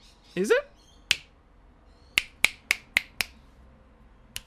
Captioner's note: finger snaps